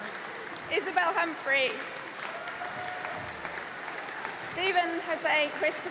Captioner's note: applause